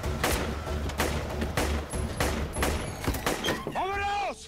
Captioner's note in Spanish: Disparos